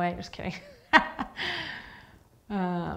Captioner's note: laughing